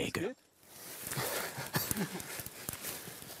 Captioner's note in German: Lachen